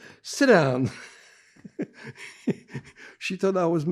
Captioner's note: laughing